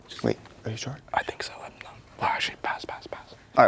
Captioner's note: whispering